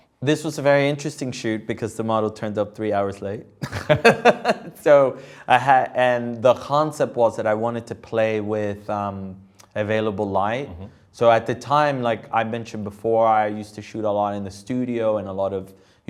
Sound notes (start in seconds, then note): 3.6 laughs